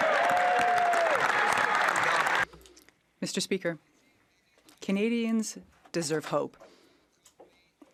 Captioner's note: some Applause